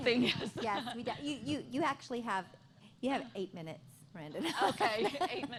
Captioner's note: laughter